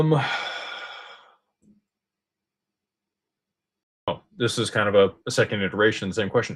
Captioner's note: sighs and gasps